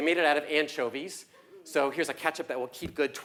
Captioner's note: laugh